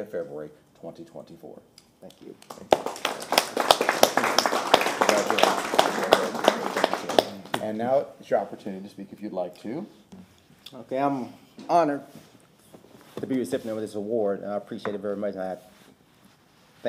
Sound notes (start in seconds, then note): 5.7 applause